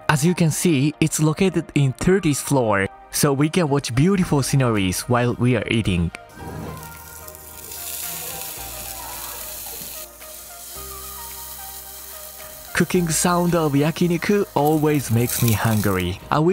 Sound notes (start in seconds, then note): 7.8 meat sizzles